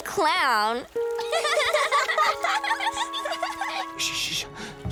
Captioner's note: laughing